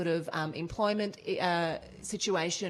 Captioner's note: none